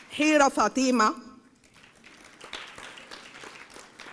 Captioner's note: applause; applause